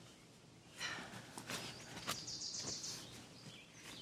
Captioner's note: Donna sighs